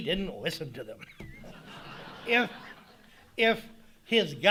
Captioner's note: audience laughing